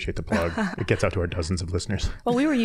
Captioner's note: scattered chuckling